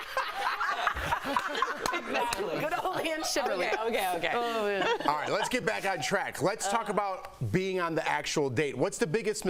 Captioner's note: laughter